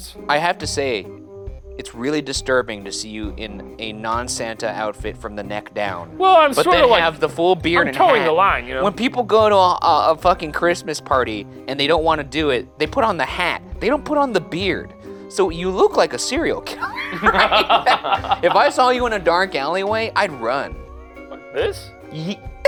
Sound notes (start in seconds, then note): 16.7 laughing